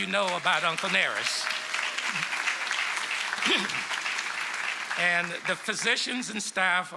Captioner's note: applause